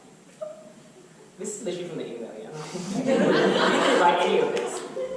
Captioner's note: audience laughter